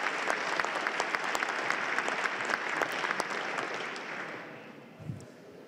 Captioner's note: applause